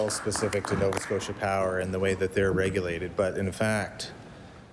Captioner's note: applause